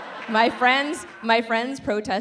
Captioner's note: audience laughs